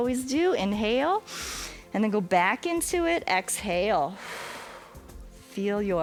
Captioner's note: exhales